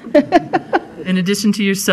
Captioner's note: chuckling